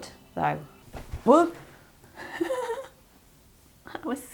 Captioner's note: laughs